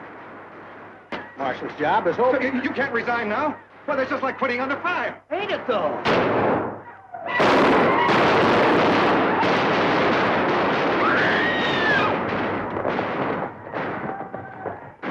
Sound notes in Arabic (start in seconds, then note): 6.2 صراخ الرجال; 7.3 صوت البنادق; 11.0 صراخ السيدات